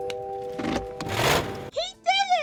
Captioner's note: engine starts up